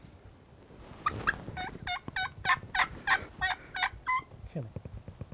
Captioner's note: turkey calling